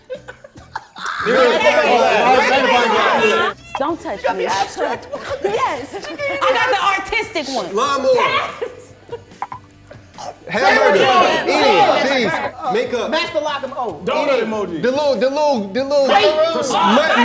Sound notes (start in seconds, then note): 0.0 they giggle; 4.9 laughing; 9.1 laughing; 9.4 makes munching noises; 11.0 bell dings